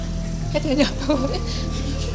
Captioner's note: laughs